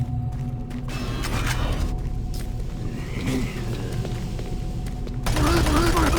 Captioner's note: gunshots